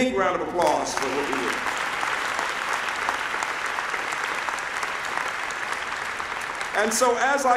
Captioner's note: applause